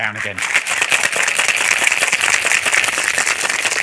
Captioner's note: shaking ice